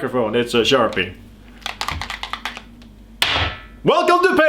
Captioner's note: marker rattles, hits floor